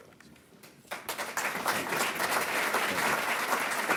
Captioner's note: applause